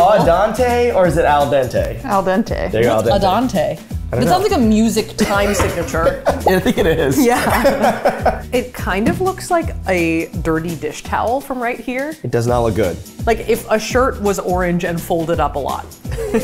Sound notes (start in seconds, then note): 5.2 laughing